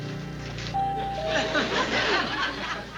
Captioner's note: doorbell rings